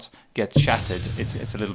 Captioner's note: glass shatters